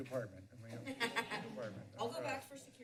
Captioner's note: laughs